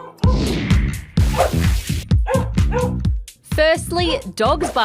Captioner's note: barking